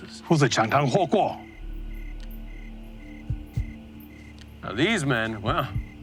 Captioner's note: translator speaking Chinese